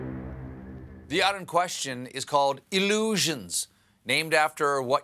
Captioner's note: horn blows